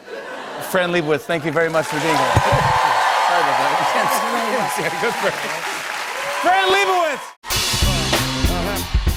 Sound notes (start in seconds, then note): 1.4 cheers and applause; 4.9 laughing